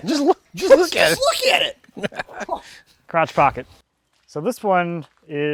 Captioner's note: laughs